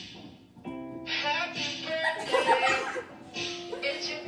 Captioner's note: laughter by cousins